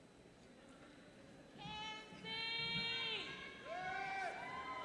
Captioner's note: audience cheering